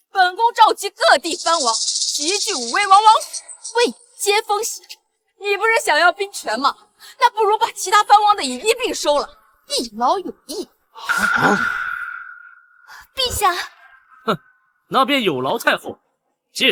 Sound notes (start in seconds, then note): 11.2 sounds surprised